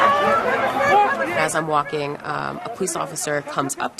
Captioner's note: shouting, clamoring